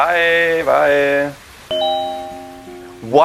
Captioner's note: phone pings